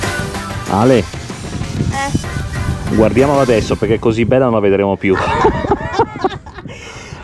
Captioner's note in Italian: risate